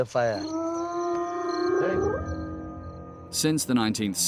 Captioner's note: hyenas growling